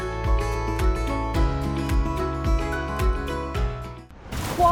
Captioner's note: splash